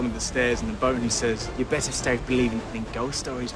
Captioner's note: mimics captain barbossa